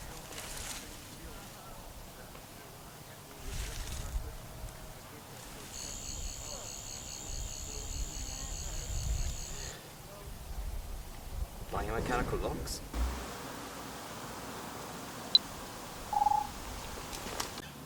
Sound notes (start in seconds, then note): 5.7 Sonic Screwdriver buzzes